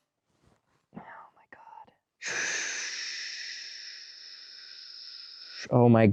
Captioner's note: breathes out slowly